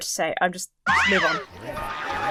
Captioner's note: springs boinging; slide whistle blows